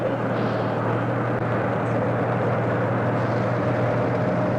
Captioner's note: trucks rumbling